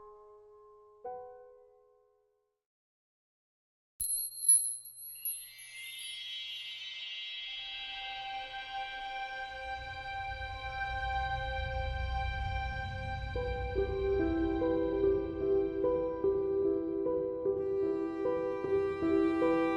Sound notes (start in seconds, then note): 4.1 magical sparkling chime sound